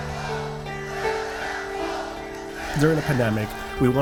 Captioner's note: audience cheering